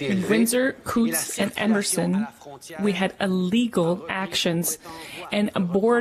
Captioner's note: speaking in French